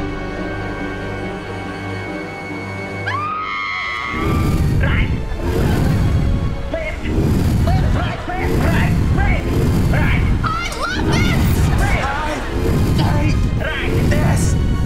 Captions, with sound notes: [screaming] Right! Left! Left, right, left right, left, right! I love this! I... hate... this.